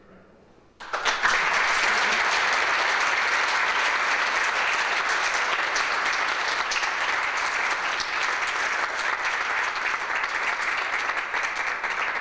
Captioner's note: applause